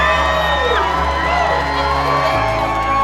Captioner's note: crowd cheers; emotional music